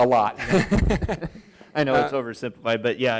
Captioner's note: laughs